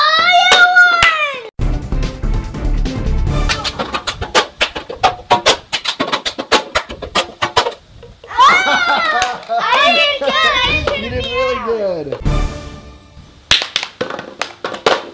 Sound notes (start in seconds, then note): 1.6 tense music; 8.4 laughing